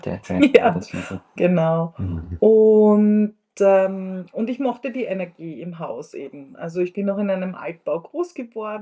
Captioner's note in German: räuspern